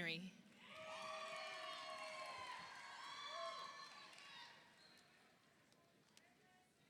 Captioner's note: audience cheers; audience applauds